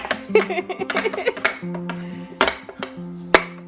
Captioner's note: laughing